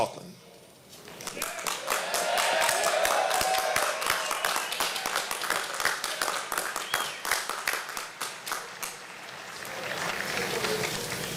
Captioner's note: applause